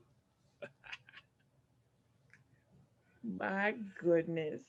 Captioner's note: Bobo laughs